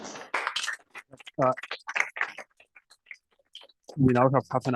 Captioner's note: applause